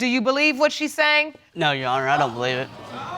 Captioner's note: audience exclaiming